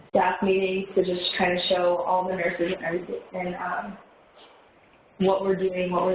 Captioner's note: audio warps